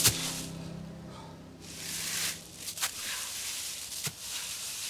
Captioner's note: Arawn breathing heavily